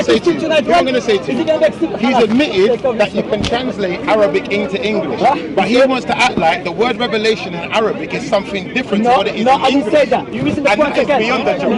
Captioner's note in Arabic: ضحك